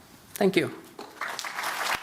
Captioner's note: applause